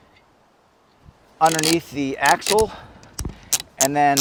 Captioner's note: strap clicking